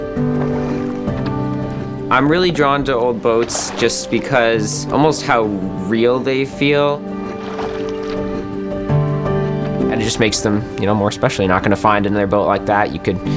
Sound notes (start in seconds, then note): 6.7 oars cutting through the water